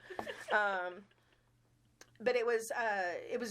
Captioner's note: chuckling